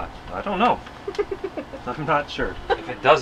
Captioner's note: laughs